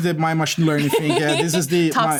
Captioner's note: laughter